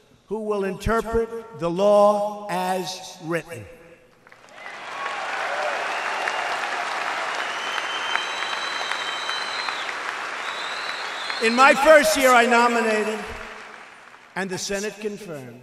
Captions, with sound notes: who will interpret the law as written. (Applause.) In my first year I nominated, and the Senate confirmed,